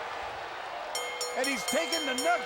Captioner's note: bell dinging